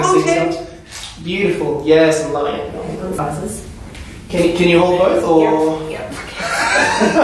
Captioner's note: camera clicks; off-screen: *laughter* Ohhh no!